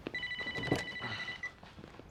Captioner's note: telephone rings; ring